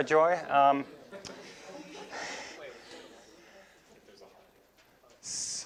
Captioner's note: students chatting